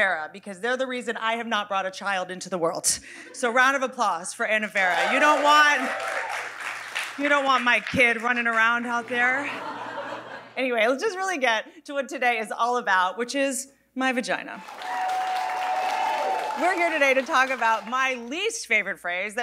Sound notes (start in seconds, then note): 4.9 audience applauding; 14.6 audience applauding